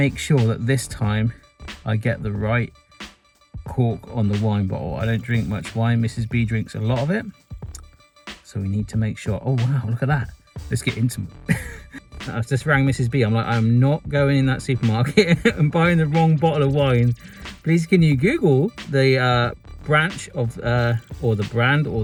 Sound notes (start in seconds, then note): 11.4 chuckles; 15.0 chuckles